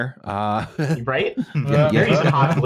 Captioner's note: laughter